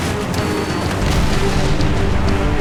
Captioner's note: detonator beeps